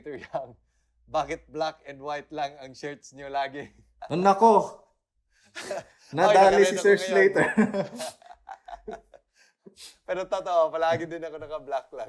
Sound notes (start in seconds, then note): 6.3 laughs